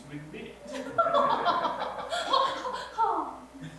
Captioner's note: mrs. blushington laughs obnoxiously